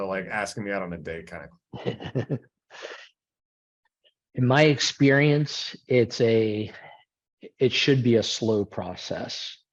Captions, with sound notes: like asking me out on a date kind of. (laughs) In my experience, it's a, it should be a slow process.